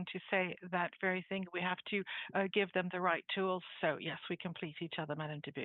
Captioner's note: speaking French